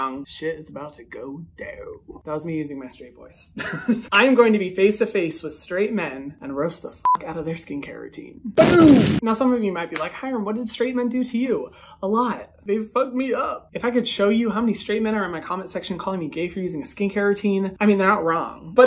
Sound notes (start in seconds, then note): 3.8 laughs; 7.0 beep; 8.6 explosion sound